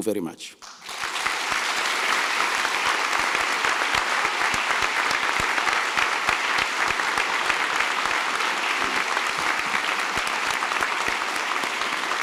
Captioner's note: applause